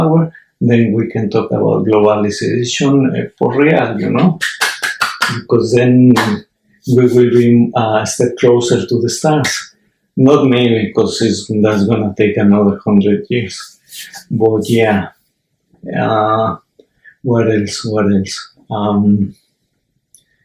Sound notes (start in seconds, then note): 4.4 clap clap